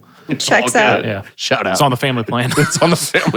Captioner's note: chuckles